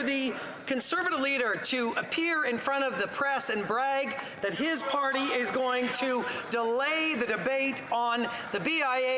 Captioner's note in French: voix de l'interprète